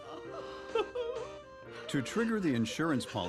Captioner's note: both sobbing